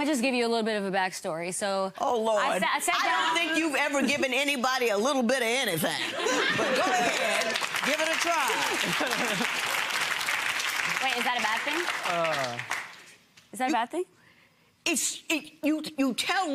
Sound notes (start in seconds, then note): 6.5 laughing and clapping